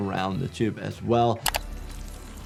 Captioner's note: graphics clicking; suspenseful music; water trickling